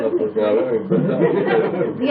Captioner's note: laughter